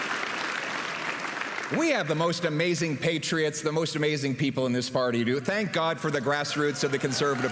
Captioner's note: applause